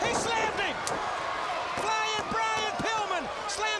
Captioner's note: crowd cheering